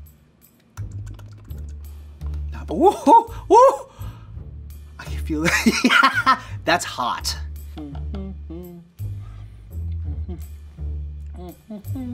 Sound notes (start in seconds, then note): 0.7 lips smack; 5.6 laughs; 7.6 hums